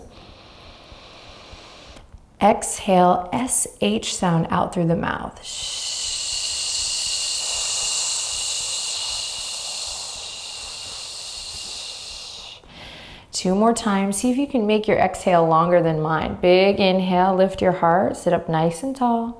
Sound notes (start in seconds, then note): 0.0 inhaling deeply; 5.4 exhaling deeply